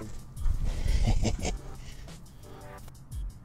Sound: chuckles

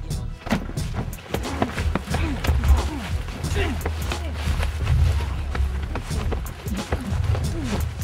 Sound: grunts

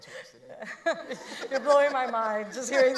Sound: audience laughs

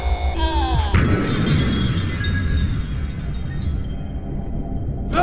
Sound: explosion

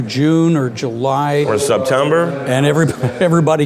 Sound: laughing

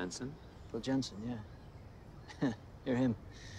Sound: chuckling

